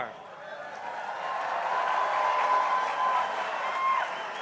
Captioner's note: crowd cheering